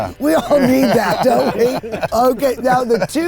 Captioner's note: everyone laughs